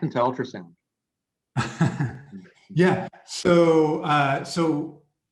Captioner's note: chuckles